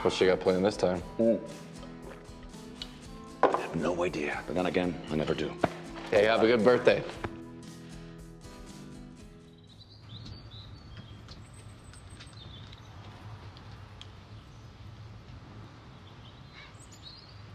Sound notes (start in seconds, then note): 9.0 gentle upbeat music; 11.1 birds chirping